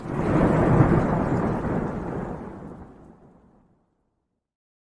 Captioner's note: thunder roaring